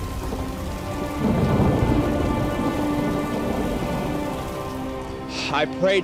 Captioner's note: somber music; flames roaring